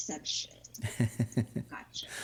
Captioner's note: laughing